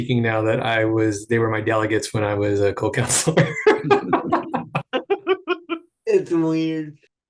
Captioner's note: laughs